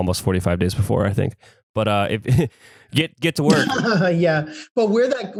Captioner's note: laughs